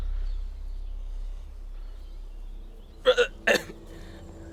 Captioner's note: birds chirping